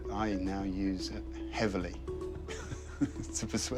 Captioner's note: chuckles